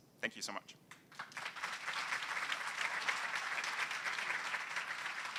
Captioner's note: applause